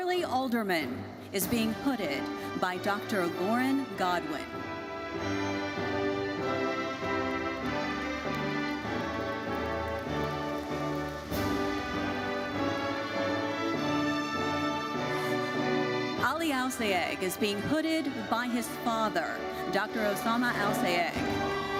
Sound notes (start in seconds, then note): 5.1 gentle classical music continues; 8.2 audience applauding